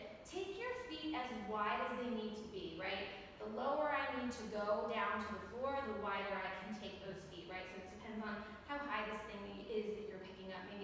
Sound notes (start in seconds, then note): none